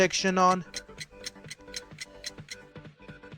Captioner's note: clock Ticking